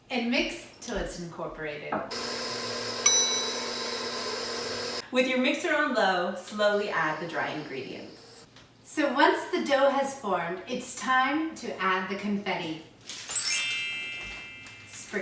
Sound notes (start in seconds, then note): 2.1 mixer whooshing; 2.1 mixer tinkling; 13.4 magical music